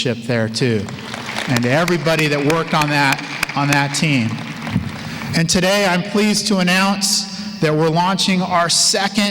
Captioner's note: applause